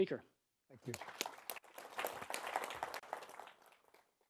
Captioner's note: applause